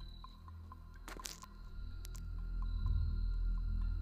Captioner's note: rustling